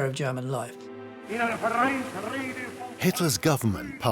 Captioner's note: speaking German